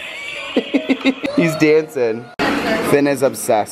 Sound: laugh

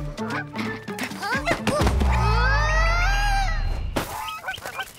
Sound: grunts

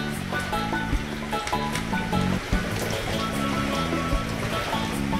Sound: wind

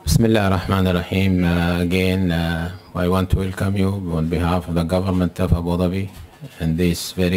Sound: Arabic

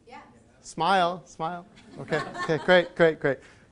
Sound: crowd

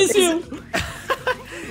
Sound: laughs

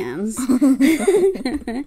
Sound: laughs

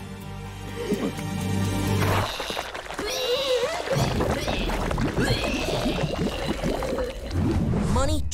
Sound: vomiting

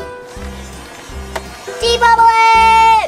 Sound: fan engine humming

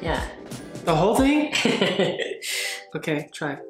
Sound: laughs

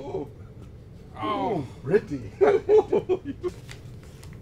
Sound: laughing

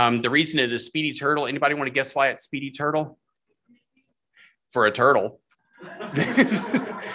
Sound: laughter

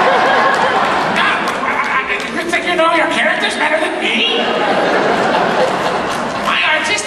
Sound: audience laughs; in Doofenshmirtz voice

